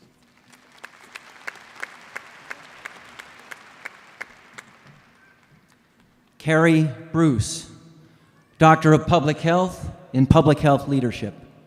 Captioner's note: applause